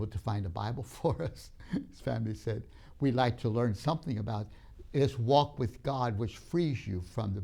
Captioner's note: laughs